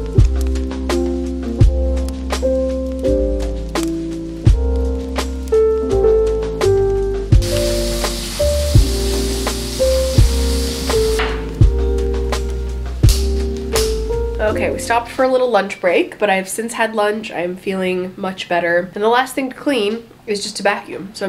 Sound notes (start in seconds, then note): 7.4 sink water splashing; 12.6 lighter clicking